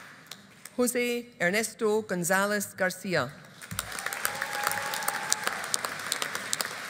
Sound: audience applauding

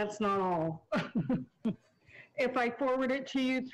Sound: chuckles

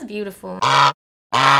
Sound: honk honk

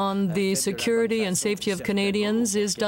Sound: speaking French

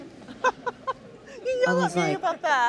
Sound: laughs

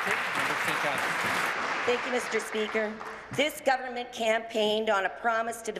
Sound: applause

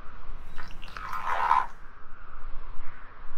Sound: odd groan

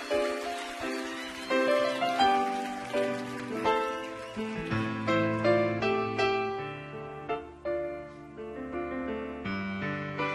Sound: audience cheering

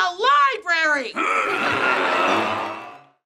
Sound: groaning

